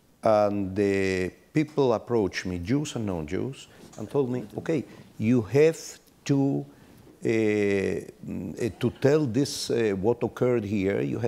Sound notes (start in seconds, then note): none